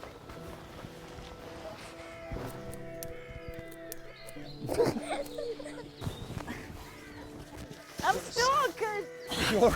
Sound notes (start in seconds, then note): 1.2 gentle orchestral music continues; 4.6 both laughing